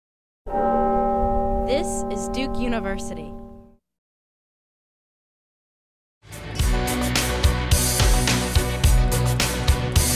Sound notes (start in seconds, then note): 0.5 bell tolls; 6.3 enthusiastic music